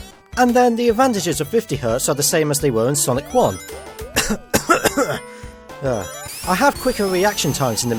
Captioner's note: cough cough cough